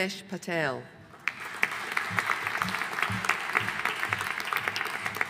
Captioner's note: audience applauding